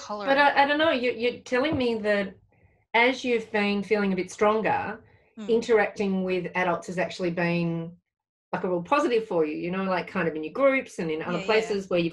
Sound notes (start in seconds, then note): none